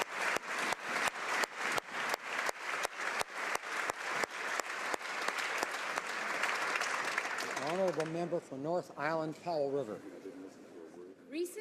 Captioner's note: applause